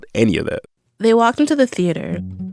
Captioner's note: soundbite of archived recording